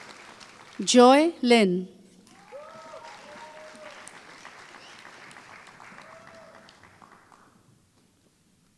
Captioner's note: applause